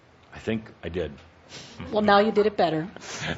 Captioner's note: chuckling